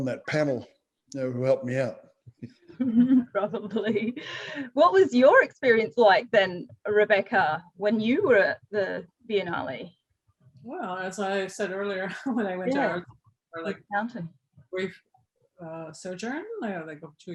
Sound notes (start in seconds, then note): 2.7 laughter